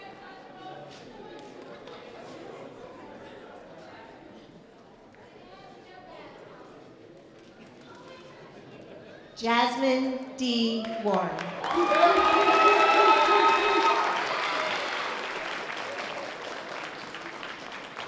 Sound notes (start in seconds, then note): 11.4 sustained audience applause